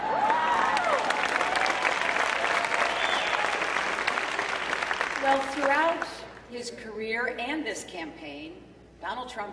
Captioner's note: cheering